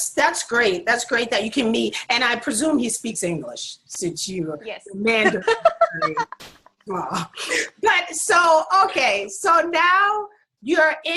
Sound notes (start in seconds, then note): 5.1 laughs